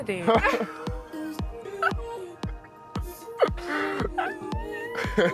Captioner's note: both laughing